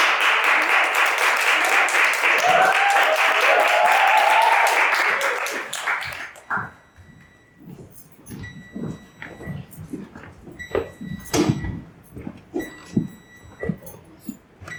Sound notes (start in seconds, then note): 0.0 applause; 7.5 beeping